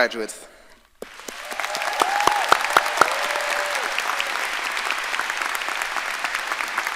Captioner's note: audience applauding and cheering